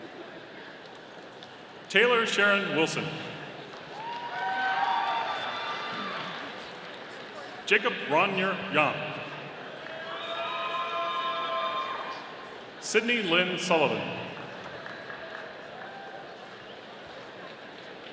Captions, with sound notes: Tayla Sharynne Wilson. (audience cheering) Jacob Brawner Yahm. (audience cheering) Syndey Lynn Sullivan. (audience applauding)